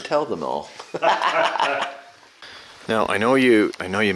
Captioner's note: laughing